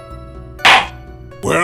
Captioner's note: gavel slams!